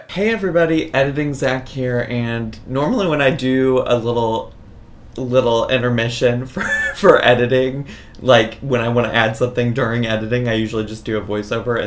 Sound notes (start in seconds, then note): 6.6 laughs